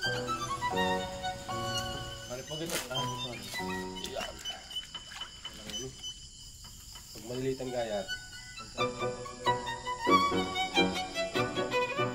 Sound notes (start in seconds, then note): 7.1 murmurs; 9.2 violin music